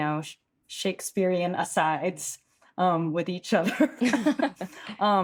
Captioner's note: chuckles